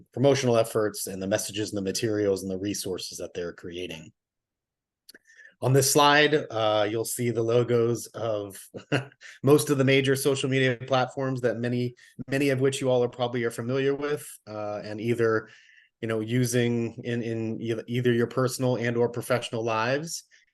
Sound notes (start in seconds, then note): 8.8 laughs